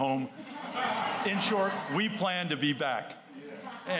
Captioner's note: laughter